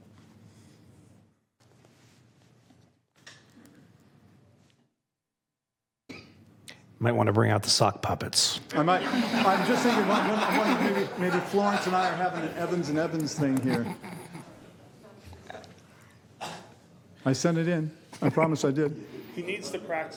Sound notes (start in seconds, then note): 14.1 laughter